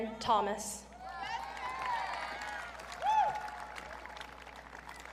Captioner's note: audience cheering